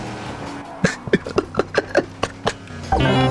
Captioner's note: laughs to myself